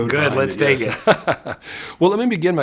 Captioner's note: laughs